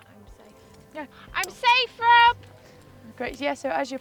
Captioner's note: shouts